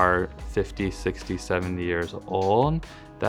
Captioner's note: none